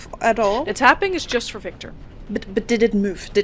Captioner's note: metallic tapping continues intermittently